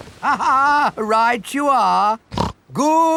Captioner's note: laughs; snorts